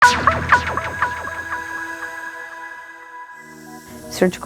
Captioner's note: digital sound effect